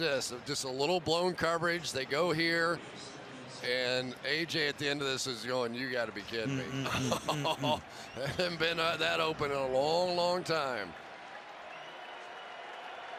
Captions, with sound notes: Watch this. Just a little blown coverage, they go here. And AJ at the end of this is going, you got to be kidding me? Mm-mm-mm. [chuckles] That hadn't been that open in a long, long time.